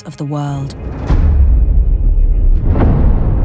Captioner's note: thunder rumbling